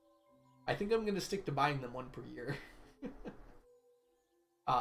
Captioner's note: laughs